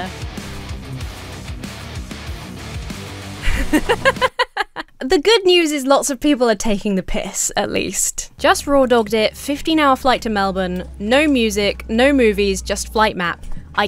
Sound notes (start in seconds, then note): 0.0 heavy metal music; 3.4 laughs